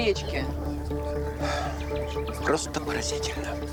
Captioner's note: sighs